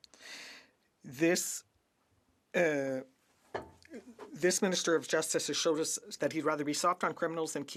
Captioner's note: speaking French